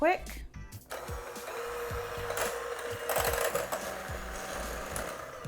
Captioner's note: mixer whizzing